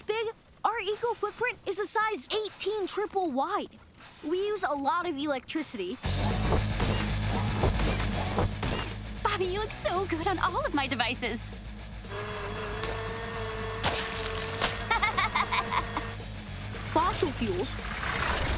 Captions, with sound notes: our eco-footprint is a size 18 triple wide. We use a lot of electricity... Bobby, you look so good on all of my devices. [buzzing] [laughing] ...fossil fuels...